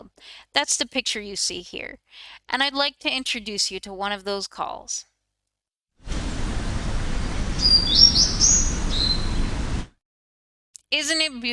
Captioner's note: a bird call plays